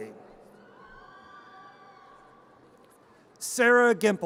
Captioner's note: audience cheers